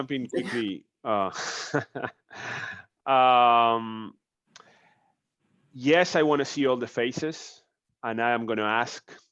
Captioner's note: laughs